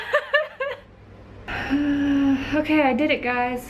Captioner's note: laughs; sigh of regret